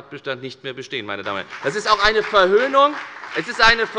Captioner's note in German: Beifall bei der FDP